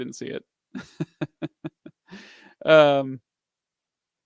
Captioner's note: laughs